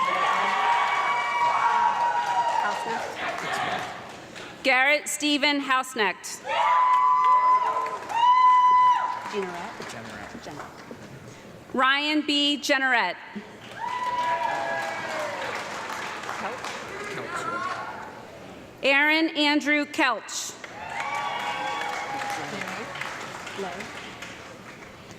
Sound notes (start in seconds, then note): 0.0 audience clapping and loud cheering; 6.5 audience clapping and screaming; 13.5 audience clapping and cheering; 20.6 audience clapping and cheering